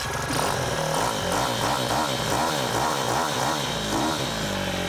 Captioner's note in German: lautes Motor-Geräusch